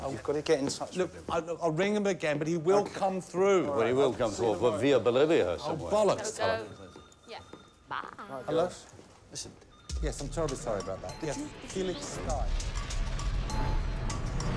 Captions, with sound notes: - Yes I was gonna get in touch with him. I'll ring him again but he will come through. - I bet he will come through Vavia Bulluvia somewhere. - Oh bullocks, Toch. (editors chattering) (upbeat rhythmic music)